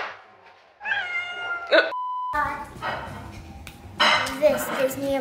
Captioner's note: cat meowing